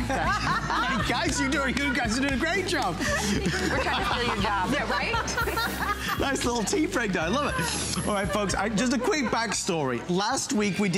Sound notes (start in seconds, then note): 2.7 laughter